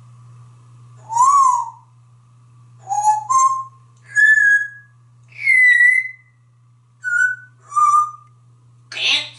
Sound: whistling a tune

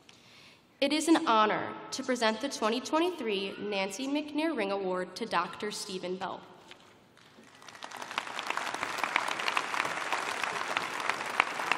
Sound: applause

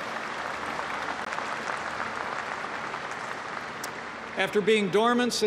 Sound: applause

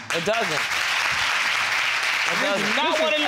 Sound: audience applauding

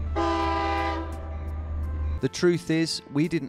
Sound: train horn honks

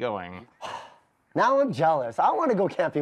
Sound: sighs

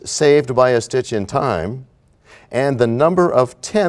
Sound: none

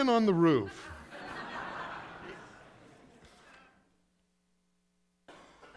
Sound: congregation laughing

